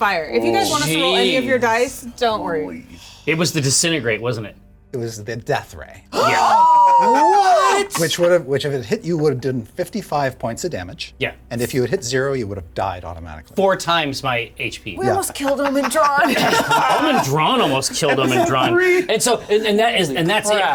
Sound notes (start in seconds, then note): 6.1 players exclaiming